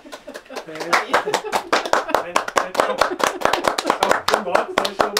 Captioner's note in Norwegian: applaus